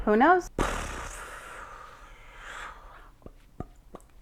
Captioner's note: mouth noises